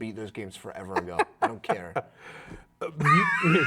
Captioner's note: laughing